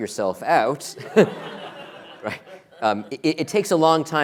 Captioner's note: laughter